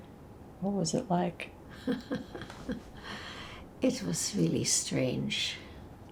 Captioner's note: laughing